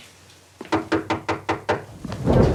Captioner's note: Annie knocking; thunder rumbling